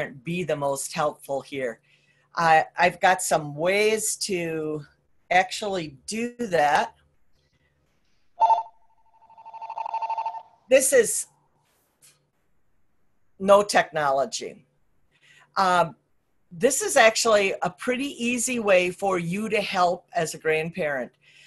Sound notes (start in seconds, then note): 8.4 phone rings